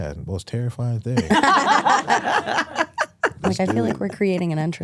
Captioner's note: hosts laughing